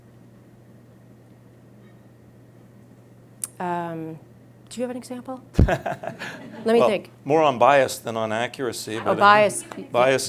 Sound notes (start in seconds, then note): 5.5 laughs